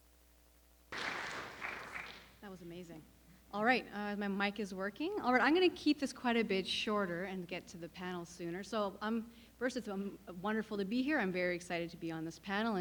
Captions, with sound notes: (audience applauding) - That was amazing. All right, my mic is working. All right, I'm gonna keep this quite a bit shorter and get to the panel sooner. So first, it's wonderful to be here. I'm very excited to be on this panel,